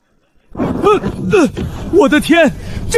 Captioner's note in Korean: 신음